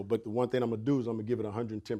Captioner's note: none